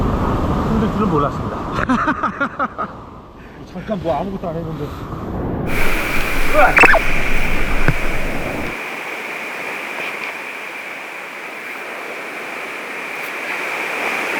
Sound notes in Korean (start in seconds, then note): 1.7 웃음